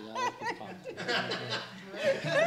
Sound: laughter

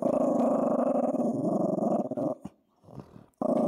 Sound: growling

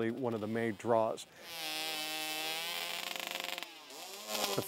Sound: sound: chainsaws

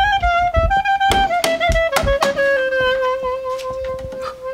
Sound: taps

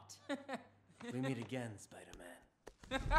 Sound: laughing

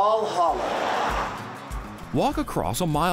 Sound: audience laughing

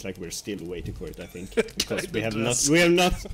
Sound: laughs

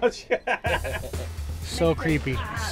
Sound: laughter

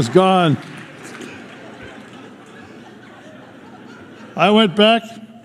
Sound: laughter

